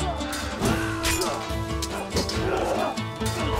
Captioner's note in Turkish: Kılıç sesleri